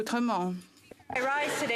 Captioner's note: speaking French